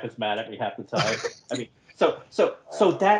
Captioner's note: laughs